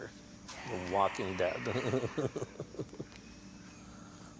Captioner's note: laughs